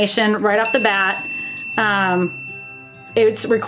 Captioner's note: bell dings